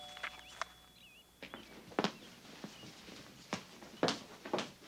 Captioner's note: doorbell rings